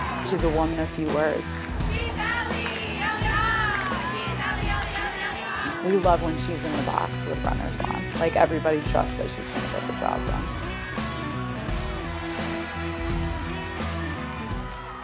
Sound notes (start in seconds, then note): 1.8 chanting